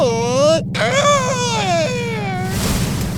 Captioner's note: scream